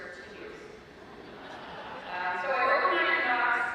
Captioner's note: audience laughs